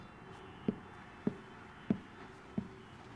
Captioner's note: footsteps approaching